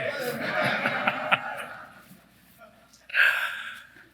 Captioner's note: applause; laugh